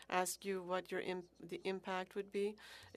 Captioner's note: speaking French